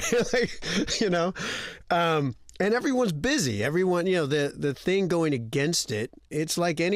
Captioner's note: laughter